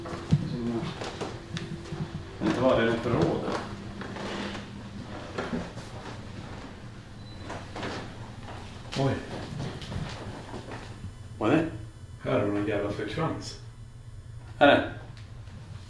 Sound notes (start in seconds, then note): 10.3 disturbance on sound